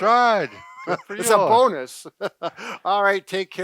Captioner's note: laughs